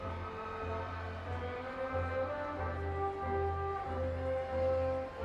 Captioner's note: audience continues cheering